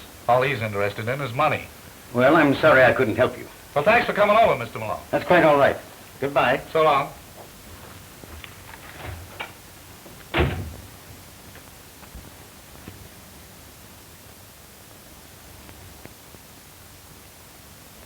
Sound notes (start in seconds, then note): 10.3 door opens and closes